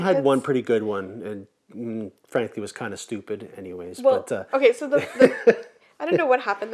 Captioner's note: laughs